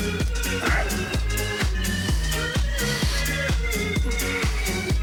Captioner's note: breathing